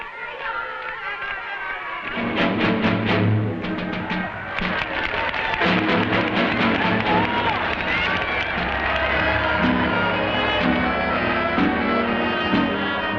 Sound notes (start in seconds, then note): 2.1 crowd applauding; 2.1 dramatic music